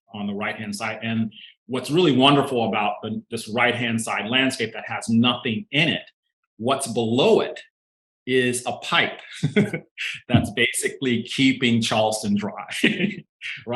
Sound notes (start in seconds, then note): 9.2 laughing